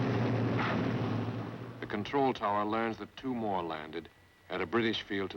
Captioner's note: engine sounds